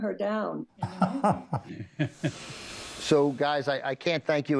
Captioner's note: laughs